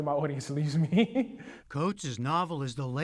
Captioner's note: laughter